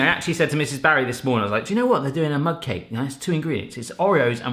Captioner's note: none